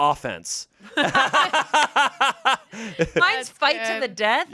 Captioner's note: everyone laughs